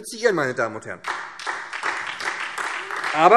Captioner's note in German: Beifall SPD